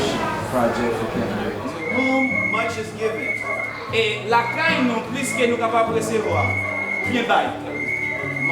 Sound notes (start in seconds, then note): 3.9 speaking in foreign language